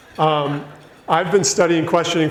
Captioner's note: audience laughs